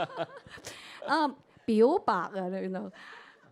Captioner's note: both chuckle; Cantonese